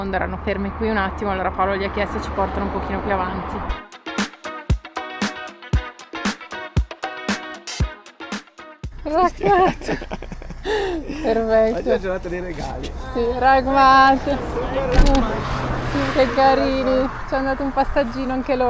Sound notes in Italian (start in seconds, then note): 9.2 risate